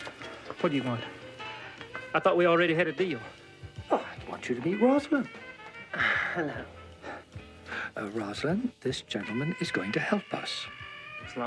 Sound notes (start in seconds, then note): 5.8 sighs